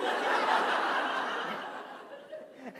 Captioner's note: laughter